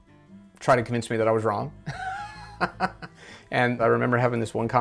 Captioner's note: chuckles